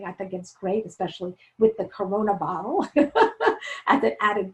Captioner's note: laughing